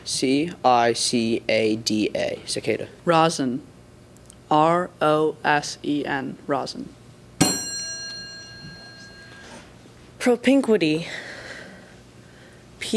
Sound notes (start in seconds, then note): 7.4 ding